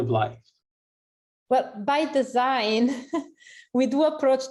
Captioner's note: laughter